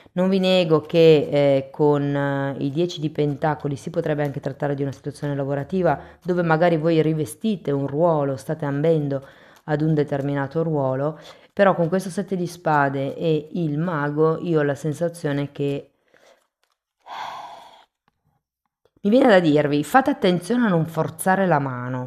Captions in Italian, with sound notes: Non vi nego che con i 10 di pentacoli si potrebbe anche trattare di una situazione lavorativa dove magari voi rivestite un ruolo, state ambendo ad un determinato ruolo, però con questo sette di spade e il mago io ho la sensazione che [sospiri][suono gutturale] mi viene da dirvi fate attenzione a non forzare la mano